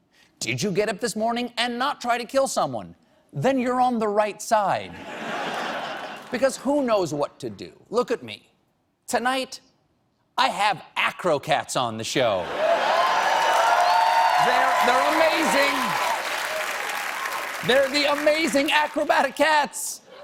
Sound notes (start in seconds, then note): 4.9 laughter; 12.7 applause